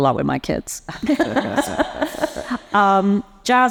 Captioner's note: panelists laughing